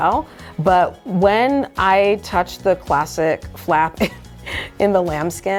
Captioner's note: laughs